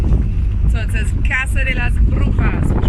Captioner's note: speaking Spanish